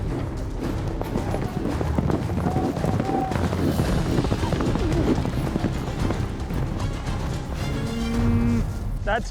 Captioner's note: hoofbeats